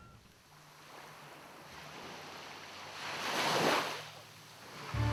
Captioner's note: water lapping